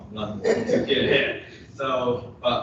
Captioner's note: laughter